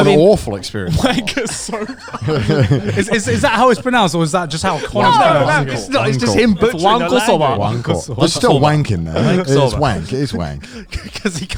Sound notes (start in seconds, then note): 2.4 laughing